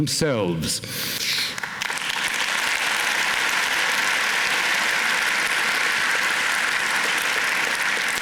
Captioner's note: applause